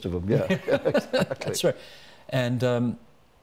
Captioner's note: chuckling